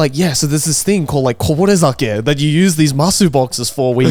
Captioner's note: speaking in foreign language